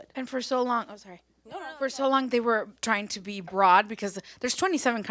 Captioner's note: none